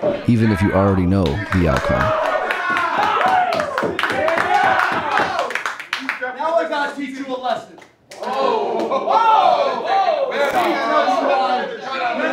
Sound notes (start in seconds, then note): 2.1 audience cheering; 8.2 audience cheering